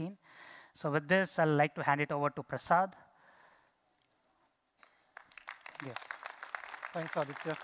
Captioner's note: applause